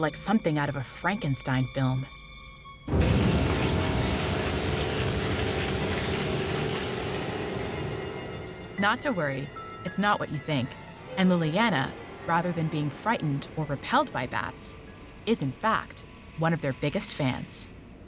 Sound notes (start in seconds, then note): 2.9 electricity buzzing, machine roaring